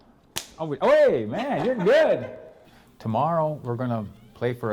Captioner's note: slaps hand